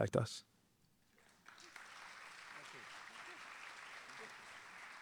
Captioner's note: audience applauding